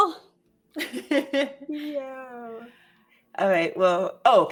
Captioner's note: laughs